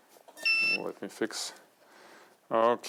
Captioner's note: light beeps